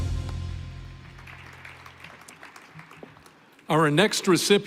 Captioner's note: applause